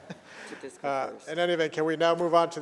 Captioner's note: laughter